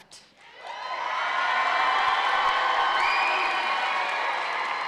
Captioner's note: audience cheering